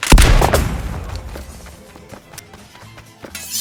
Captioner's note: bullet ricochets off of wall